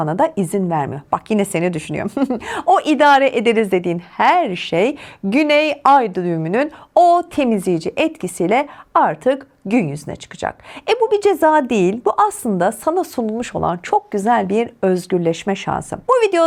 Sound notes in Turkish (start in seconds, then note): 2.0 kahkaha